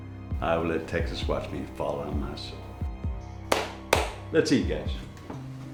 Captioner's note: claps